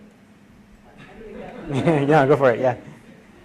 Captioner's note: laughs